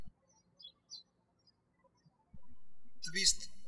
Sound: birds chirping

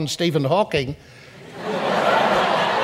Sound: audience laughs

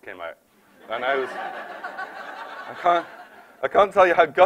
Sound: laughter

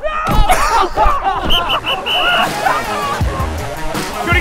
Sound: laughter; whistle blows

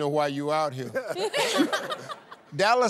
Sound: laughter

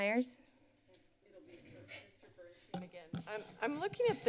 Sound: chatter

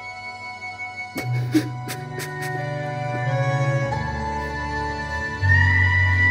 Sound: Fordwin crying

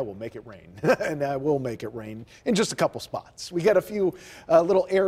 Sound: laughter

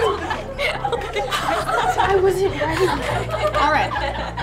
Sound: laughing

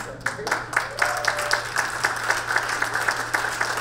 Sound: crowd cheering

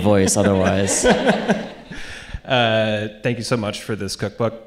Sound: audience laughing

